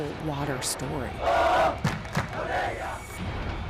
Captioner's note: chanting